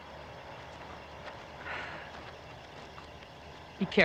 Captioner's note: sighs